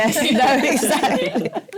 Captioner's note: laughter